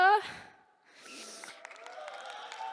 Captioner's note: sniffs; applause